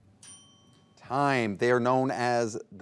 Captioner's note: timer dinging